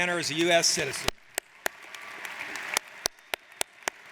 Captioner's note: applauding